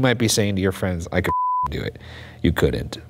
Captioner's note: beep